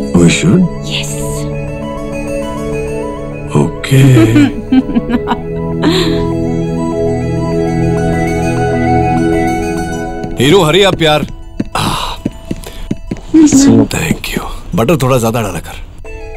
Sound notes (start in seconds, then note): 4.0 Ananya laughing